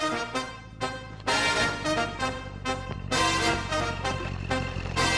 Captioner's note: bright jazzy music; engine purring